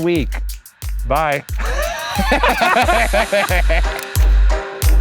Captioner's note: both laugh; mysterious music continues